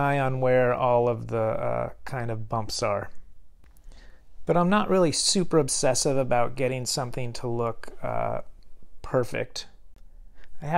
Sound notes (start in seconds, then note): none